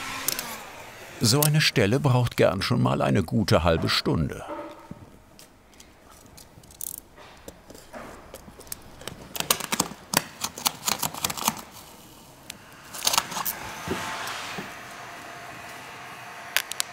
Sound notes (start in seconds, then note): 10.1 tearing noises